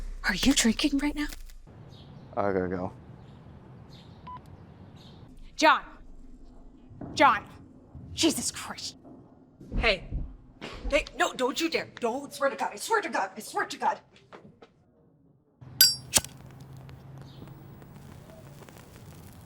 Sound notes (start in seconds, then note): 3.3 phone beeps off